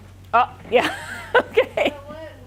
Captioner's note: laughing